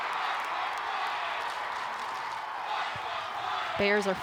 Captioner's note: crowd chanting